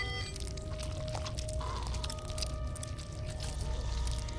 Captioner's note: flesh squelching